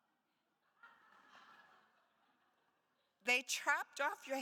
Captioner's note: attendees laughs